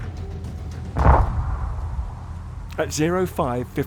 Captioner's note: projectiles fire